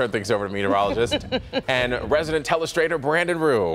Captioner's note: laughter